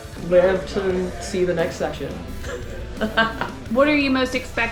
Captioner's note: laughs